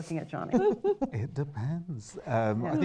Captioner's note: laughter